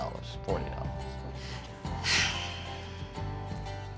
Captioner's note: sigh